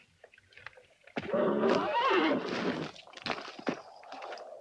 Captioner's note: horse neighs